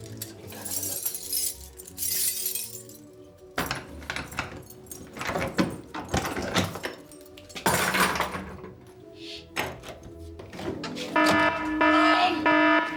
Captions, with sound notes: ...50 we can go and have a look. [LOCK AND KEYS CLATTERING] Shh. [ALARM BLARING]